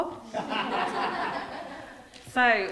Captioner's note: group laughing